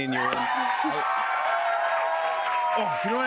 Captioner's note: cheers and applause